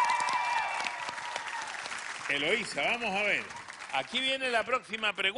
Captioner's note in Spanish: aplausos